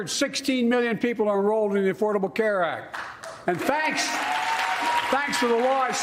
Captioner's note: cheers and applause